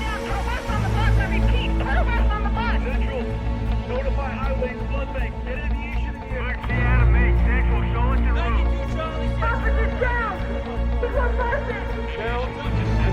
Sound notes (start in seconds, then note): 2.7 man 1 over radio; 6.2 man 2 over radio; 9.1 woman over radio; 10.8 radio chatter continues